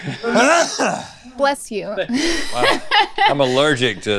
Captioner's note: Rhett coughs; laughs